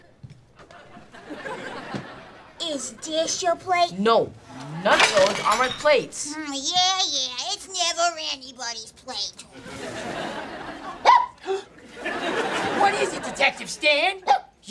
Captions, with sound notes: - Is this your plate? - No! None of those are my plates! Yeah, yeah, it's never anybody's plate! [laughing] [barking] What is it, Detective Stan?